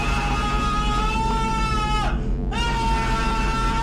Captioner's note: scream